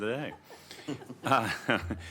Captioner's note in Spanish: risas